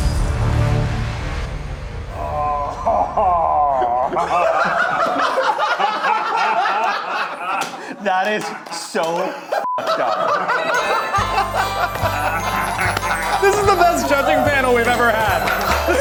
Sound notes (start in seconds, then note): 0.0 dramatic music; 4.7 group laughing; 9.6 beep; 10.4 cheerful holiday music; 15.8 laughing